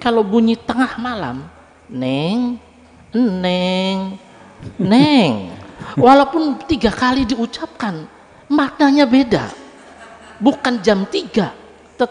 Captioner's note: laughs